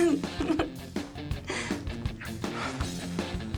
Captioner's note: laughs